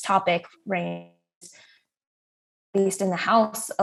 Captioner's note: audio cuts out